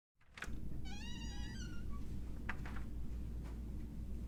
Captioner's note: door squeaks